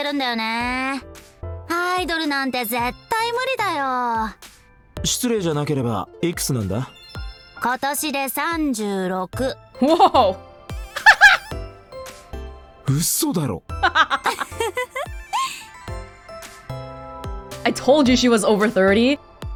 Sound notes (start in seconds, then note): 10.9 laughs; 13.8 chuckles